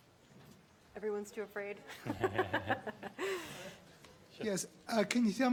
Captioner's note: laughs